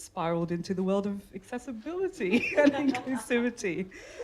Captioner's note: laughter